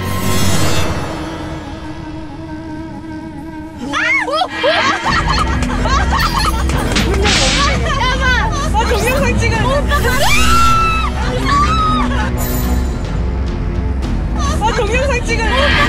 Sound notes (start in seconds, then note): 5.3 clapping